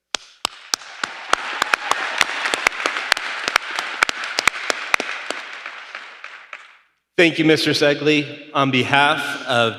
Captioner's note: applause